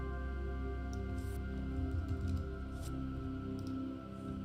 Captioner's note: gentle music; mouse clicking